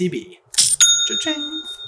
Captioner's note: cha-ching!